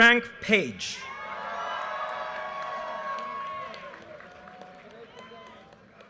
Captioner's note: audience cheers and applause